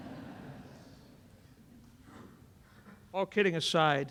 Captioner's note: laughter